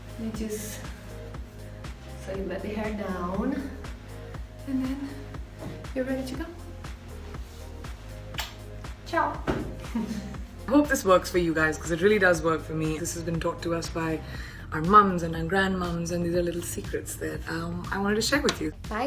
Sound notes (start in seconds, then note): 7.4 upbeat music; 9.8 chuckling